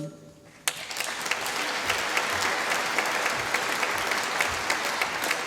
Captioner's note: applause